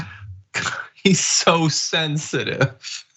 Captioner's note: laugh